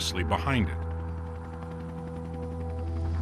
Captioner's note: none